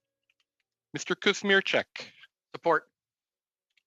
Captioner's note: speaking French